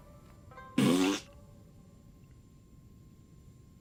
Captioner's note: fart sound